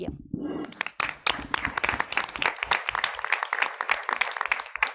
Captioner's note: audience clapping